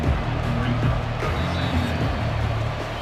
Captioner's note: whistle blows